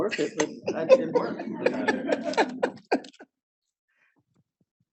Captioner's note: audience laughing